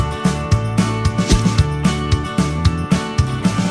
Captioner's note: swish